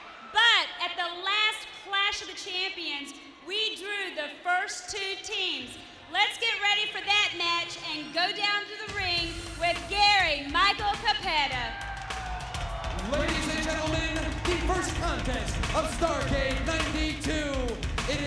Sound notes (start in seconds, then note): 11.9 audience cheers; 11.9 upbeat music